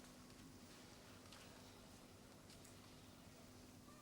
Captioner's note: none